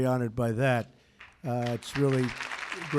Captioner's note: applause